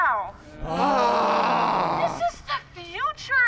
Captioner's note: all groans